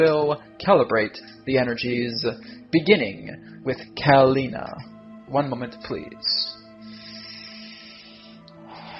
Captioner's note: deep breathing